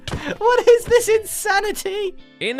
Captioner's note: while laughing